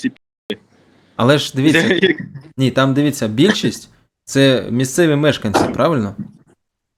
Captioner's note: laughter